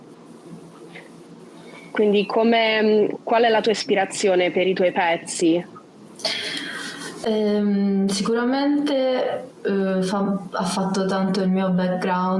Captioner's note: speaks Italian